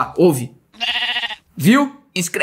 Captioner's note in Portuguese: som de ovelha